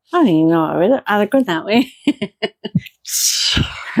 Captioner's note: laughter